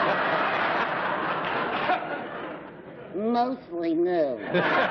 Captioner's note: laughter